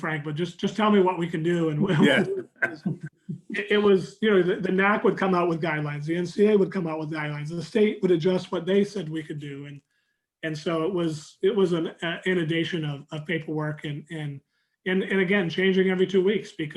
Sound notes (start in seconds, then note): 1.0 chuckling